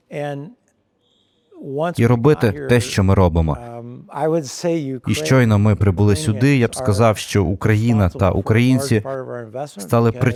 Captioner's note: whistle blows